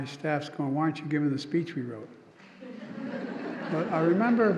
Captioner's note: laughter